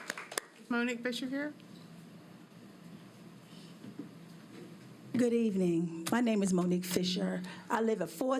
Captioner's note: applause